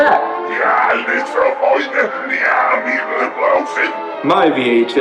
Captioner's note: demonic reversed speech